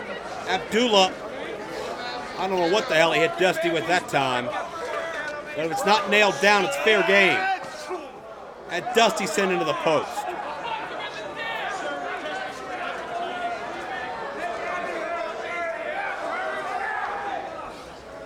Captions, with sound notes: Abdullah, I don't know what the hell he hit Dusty with that time. Well, if it's not nailed down, it's fair game. And Dusty sent into the post. (crowd yells)